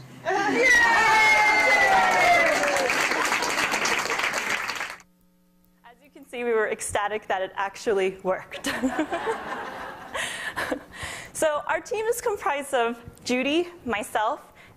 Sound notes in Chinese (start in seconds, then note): 0.2 喝采; 8.6 笑聲